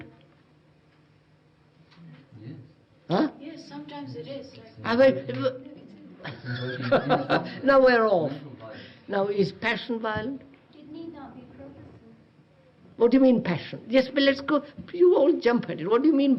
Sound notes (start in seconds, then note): 6.2 laughs